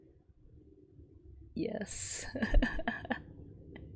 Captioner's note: laughs